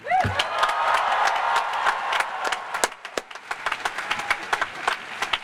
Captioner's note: cheers and applause